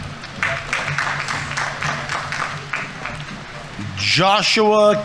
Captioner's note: audience applauding